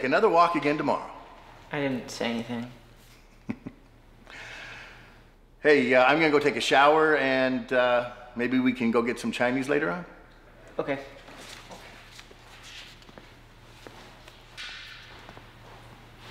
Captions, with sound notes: I'm gonna take another walk again tomorrow. - I didn't say anything. - (laughs) Hey, I'm gonna take shower and, uh, maybe we can go get some Chinese later on. - Okay.